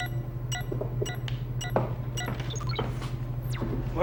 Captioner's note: beeping